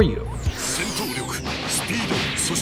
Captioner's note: gaming Sounds